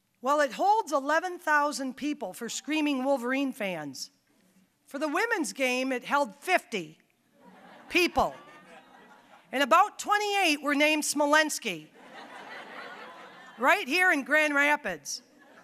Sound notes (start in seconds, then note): 7.4 audience laughing; 12.0 audience laughing